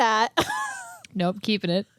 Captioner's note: laughs